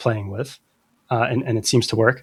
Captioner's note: uh